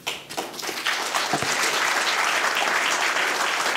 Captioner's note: applause